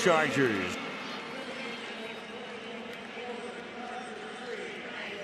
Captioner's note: pa announcement